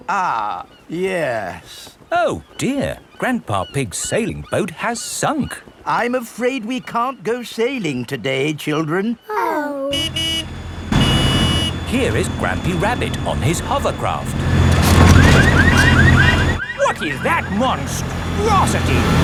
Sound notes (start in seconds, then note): 11.2 honking; 15.2 car alarms blaring